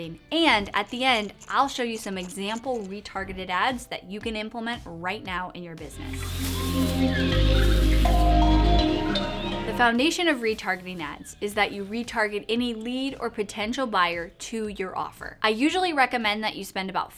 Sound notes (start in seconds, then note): 5.9 upbeat music; 6.0 jungle animals calling